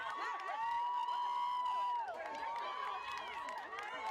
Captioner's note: crowd cheering